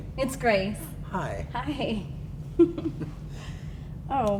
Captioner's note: giggles